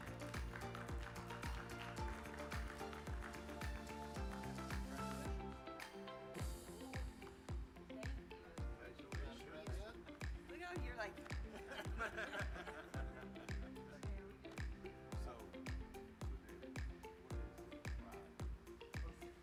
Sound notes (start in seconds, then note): 0.0 attendees applauding; 0.3 upbeat music; 11.4 attendees laughing; 17.7 speaking faintly